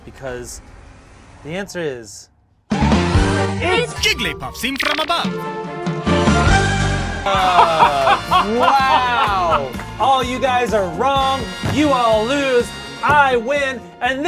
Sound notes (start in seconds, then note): 2.4 upbeat dramatic music; 7.2 laughs